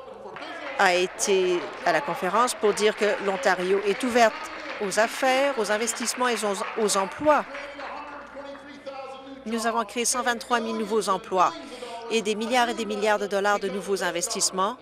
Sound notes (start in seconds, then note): 7.1 applause